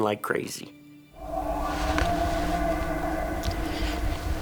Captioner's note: bulls bugling